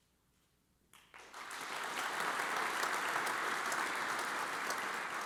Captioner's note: audience applauds